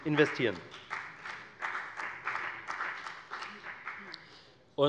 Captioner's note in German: Beifall bei der FDP